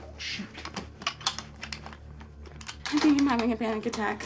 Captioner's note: gun clicking